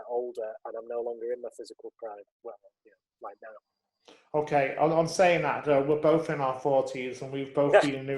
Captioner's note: laughs